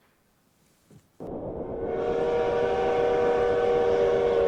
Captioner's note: train horn